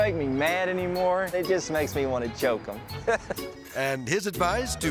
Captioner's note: laughing